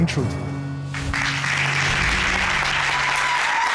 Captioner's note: applause